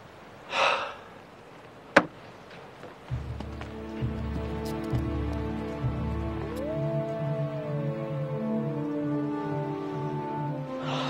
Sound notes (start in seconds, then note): 3.2 dramatic music; 6.2 wolf howls